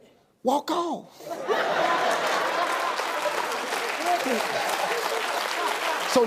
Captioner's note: audience laughing; audience applauding